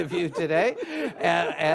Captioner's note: audience laughs